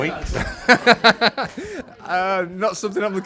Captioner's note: laughs